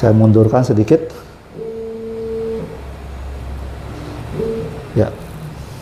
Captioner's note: printer machine noise